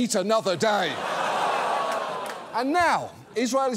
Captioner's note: audience gasps, laughs